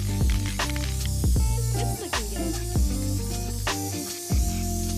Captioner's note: spray paint spraying